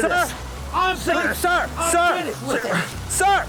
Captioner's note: shouting